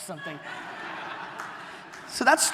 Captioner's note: audience laughter